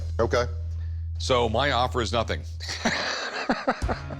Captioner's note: laughs